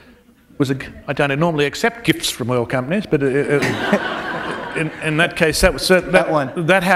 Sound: laughter

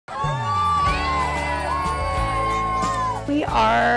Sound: children cheering

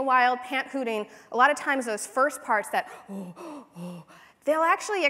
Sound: breathy ooh

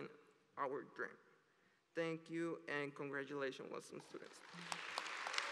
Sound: applause

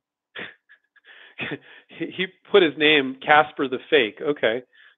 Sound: laughs

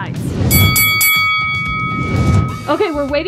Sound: bell ringing

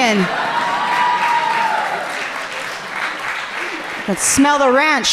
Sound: audience cheering loudly

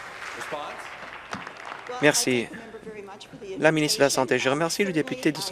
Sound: voice trailing

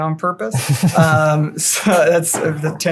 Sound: laughter

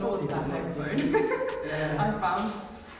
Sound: laughing

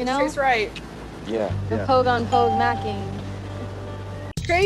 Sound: ding

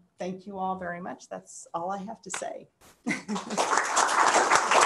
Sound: applause

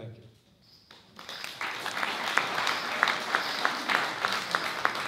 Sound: applause

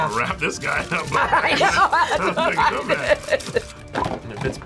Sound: laughs

